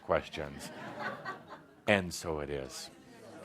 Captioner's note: laughter